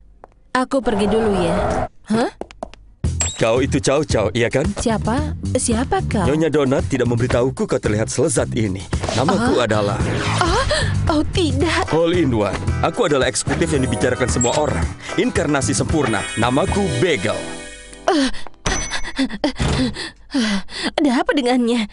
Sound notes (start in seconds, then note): 19.0 breathes heavily; 19.8 sighs